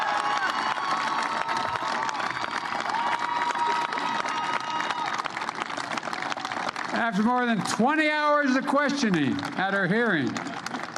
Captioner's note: applause